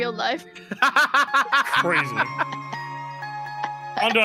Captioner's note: laughs